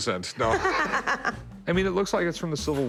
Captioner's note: laughs